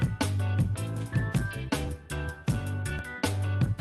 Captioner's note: none